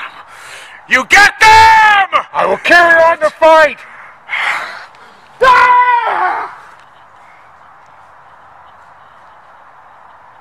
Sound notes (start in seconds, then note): 5.0 yelling